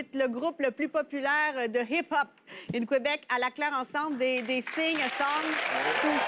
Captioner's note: speaks french; speaking french. Audience applauds